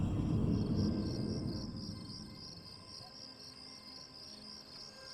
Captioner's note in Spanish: música espeluznante; gorrillos cantando